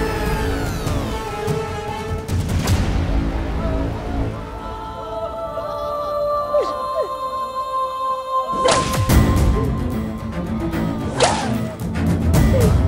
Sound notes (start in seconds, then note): 0.0 eerie music playing; 4.6 sobbing